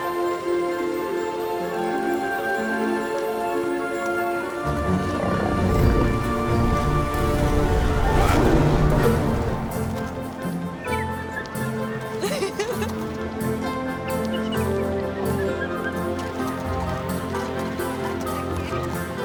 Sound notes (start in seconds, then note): 4.9 lion roars; 10.3 chittering; 11.9 laughing